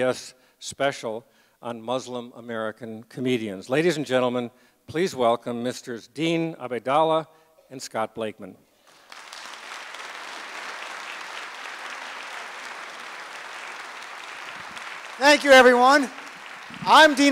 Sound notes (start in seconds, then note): 10.4 applause